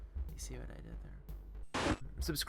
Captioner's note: static